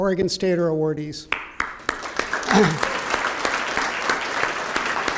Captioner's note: applause